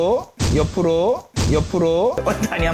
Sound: thud

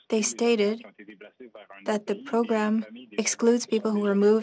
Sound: speaking French

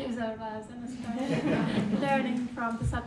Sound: everyone laughing

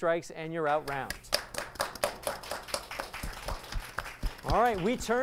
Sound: applause

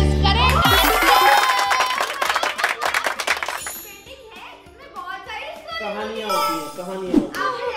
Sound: applause

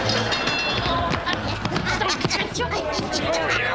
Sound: laughing

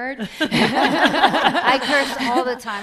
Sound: laughs

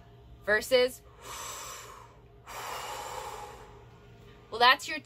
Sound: inhale into chest; deeper sounding inhale into belly

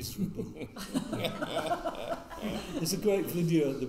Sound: all laughing

